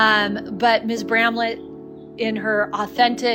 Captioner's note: none